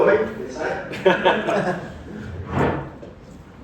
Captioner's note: laugh